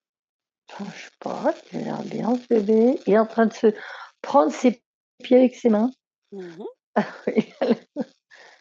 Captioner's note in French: rires